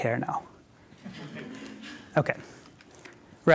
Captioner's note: laughter